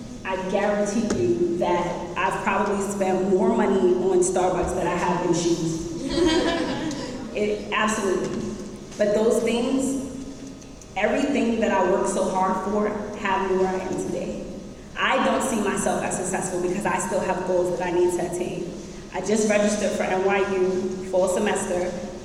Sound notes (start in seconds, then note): 6.0 audience laughs